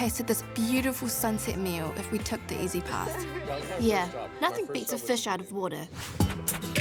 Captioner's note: all laugh